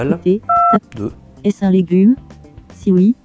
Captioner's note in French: son de touche de téléphone